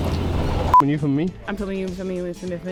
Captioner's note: sharp beep